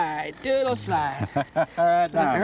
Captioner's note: laughter